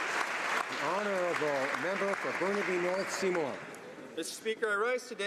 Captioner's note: applause